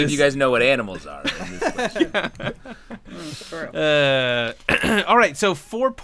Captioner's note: clears throat